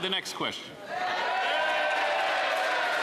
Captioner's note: some Applause